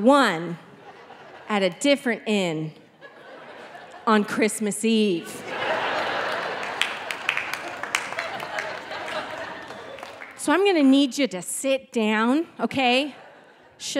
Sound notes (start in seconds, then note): 5.2 audience laughing